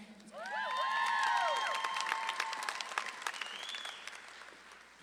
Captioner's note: audience claps and cheers